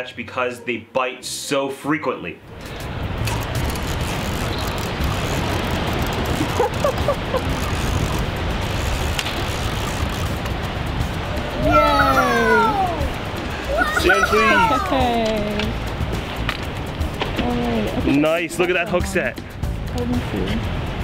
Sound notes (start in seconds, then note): 6.3 laughing; 11.5 woah!